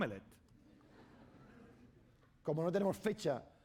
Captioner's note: laughter; speaking spanish